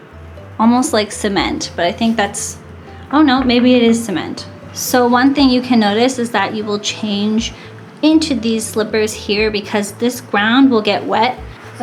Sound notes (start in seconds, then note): 2.8 knock knock